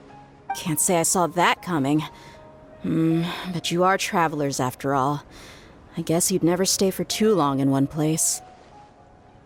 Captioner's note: sigh